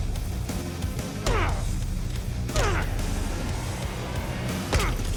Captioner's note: rock music; grunting